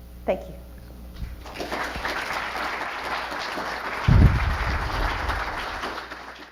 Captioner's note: audience applause